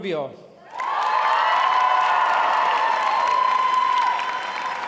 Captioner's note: applause